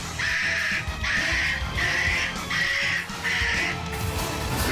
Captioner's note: loud screeching